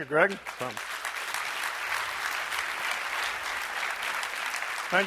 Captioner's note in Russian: аплодисменты